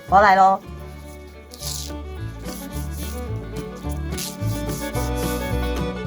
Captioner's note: therapeutic sound for the waxer